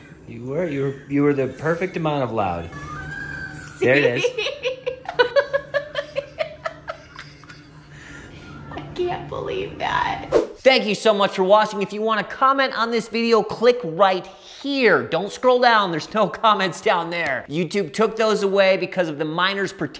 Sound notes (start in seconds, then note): 4.0 laughing